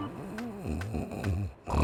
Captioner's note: zZZ